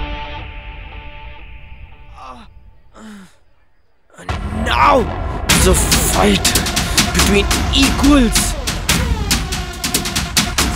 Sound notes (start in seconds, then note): 2.2 Roy grunts